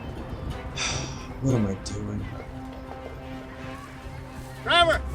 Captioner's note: sighs